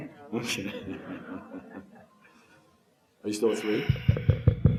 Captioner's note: laughs